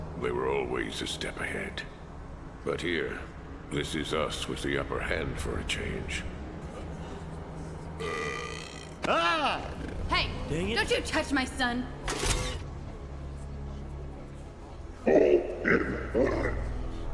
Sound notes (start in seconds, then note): 8.0 Tim burping; 12.0 mechanical whirring